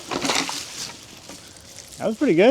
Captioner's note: water splashes